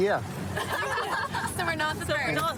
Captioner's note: laughter